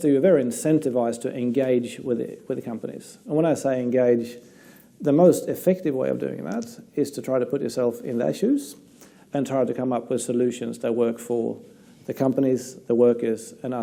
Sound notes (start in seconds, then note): none